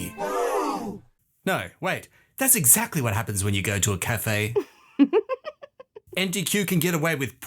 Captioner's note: woman laughs